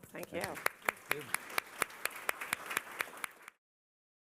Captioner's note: applause